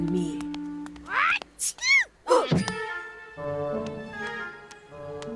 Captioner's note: sneezing in distance